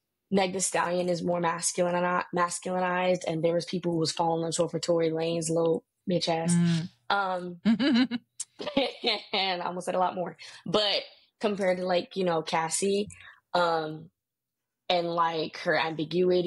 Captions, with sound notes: Meg Thee Stallion is more masculine or not, masculineized and there was people who was falling on the sword for Tory Lane's little bitch ass. (laughing) And I almost said a lot more. But compared to like Cassie and like her ambiguity,